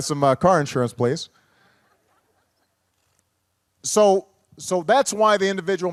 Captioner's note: laughter